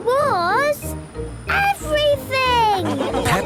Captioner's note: laughing